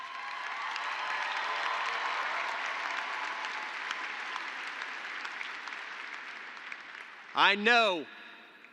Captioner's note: applause